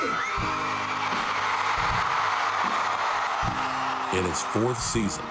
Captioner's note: audience applauds